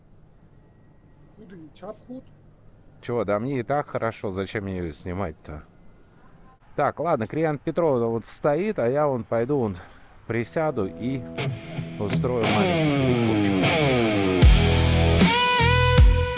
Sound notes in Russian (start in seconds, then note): 1.3 говорит на иностранном языке